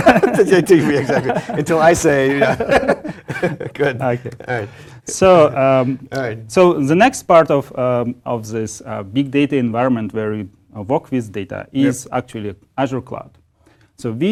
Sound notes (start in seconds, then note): 0.0 laugh